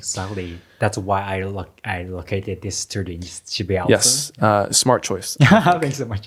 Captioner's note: laughs